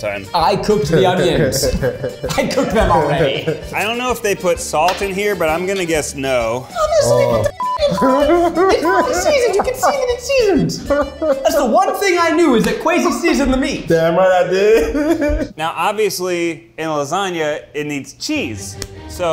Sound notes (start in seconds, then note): 0.8 laughing; 7.5 beep